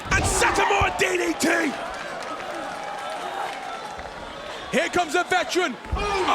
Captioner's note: applause